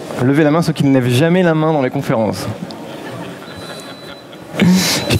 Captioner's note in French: rires